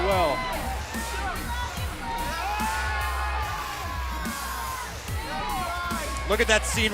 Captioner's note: crowd cheering